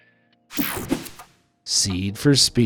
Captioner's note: page swishing; page whooshing